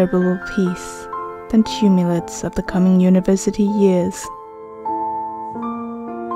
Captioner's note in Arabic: لكنة فاخرة مفاجئة؟!؟!